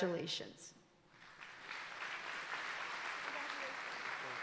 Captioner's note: audience applauding